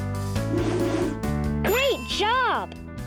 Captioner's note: air whooshing; bell dinging